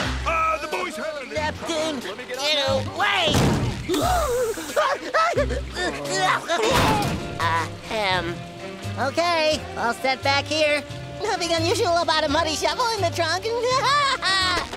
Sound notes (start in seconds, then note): 3.8 screaming; 13.7 disturbed laughing